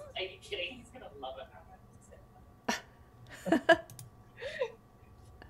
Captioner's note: people speaking in background